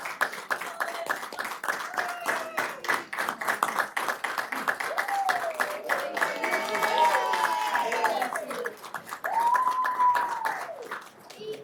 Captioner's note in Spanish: aplausos y vítores